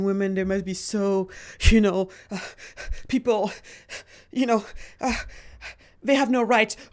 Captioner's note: panting